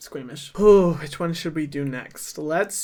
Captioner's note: exhales